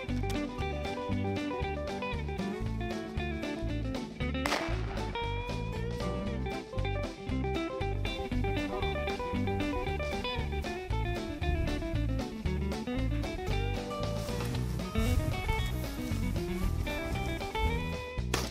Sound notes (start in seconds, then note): 0.1 upbeat country music; 4.4 shot goes off; 5.9 upbeat country music